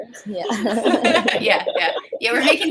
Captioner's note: laughter